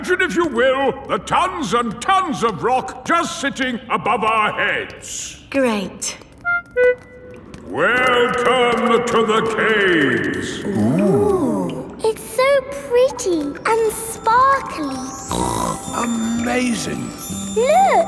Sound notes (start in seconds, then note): 15.2 snorts